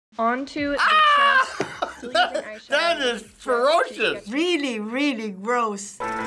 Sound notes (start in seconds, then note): 0.8 laughs; 6.0 ragtime music